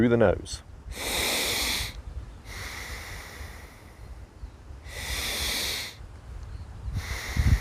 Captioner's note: deep breathing